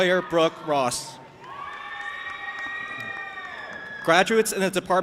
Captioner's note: audience applauding and cheering